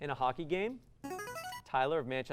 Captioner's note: buzzer